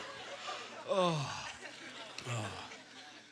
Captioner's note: audience laughter; sighing